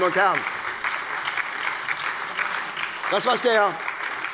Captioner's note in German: Beifall bei der SPD